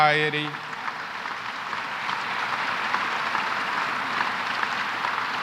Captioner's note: applause